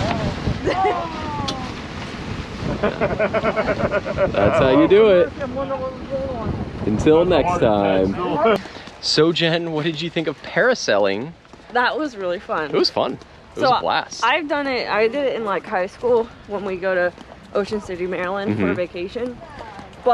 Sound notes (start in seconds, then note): 0.0 wind gently howling; 0.1 waves gently swishing; 2.7 laughing